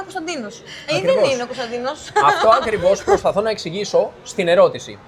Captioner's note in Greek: γέλια